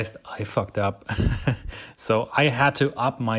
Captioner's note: laughs